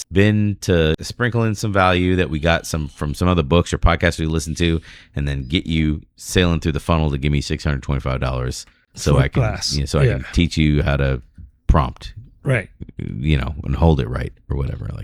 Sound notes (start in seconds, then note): 8.9 uh